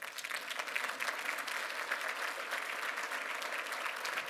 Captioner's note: applause